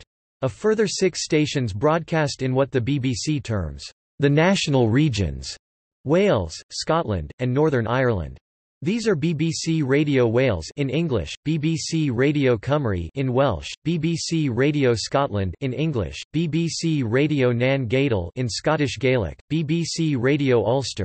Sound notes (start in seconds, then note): 13.5 in Welsh; 18.3 in Scottish Gaelic